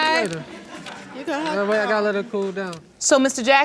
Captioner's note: audience laughs